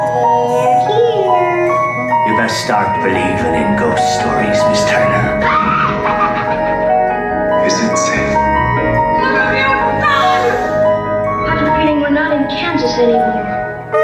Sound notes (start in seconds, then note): 0.0 background music; 5.4 cackling laughter